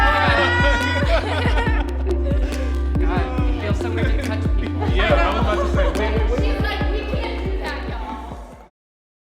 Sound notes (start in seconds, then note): 0.9 upbeat music; 3.6 group chattering